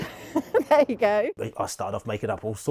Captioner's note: laughs